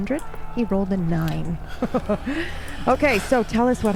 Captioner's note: cackling